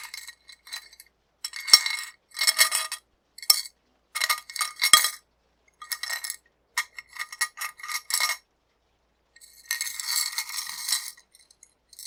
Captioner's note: necklace clacking